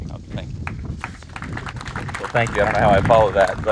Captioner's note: audience applauds